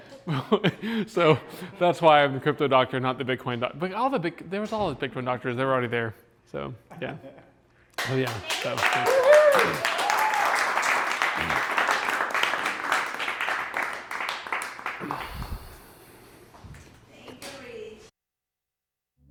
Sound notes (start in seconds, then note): 9.1 applause